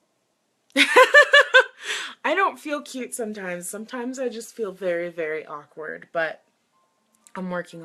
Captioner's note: laughs